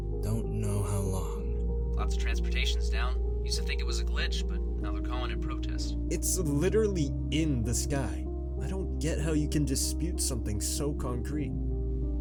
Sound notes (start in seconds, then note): none